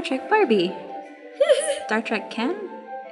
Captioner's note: laughing